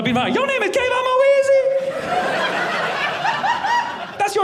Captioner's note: audience laughing